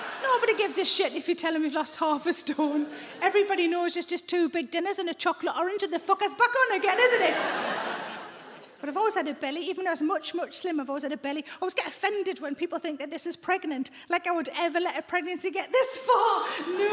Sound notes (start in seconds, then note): 0.0 audience laughs; 6.8 audience laughs